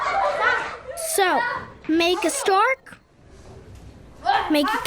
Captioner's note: boy's English Voiceover